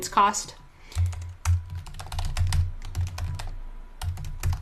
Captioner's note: typing